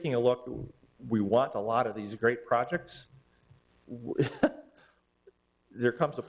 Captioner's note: chuckles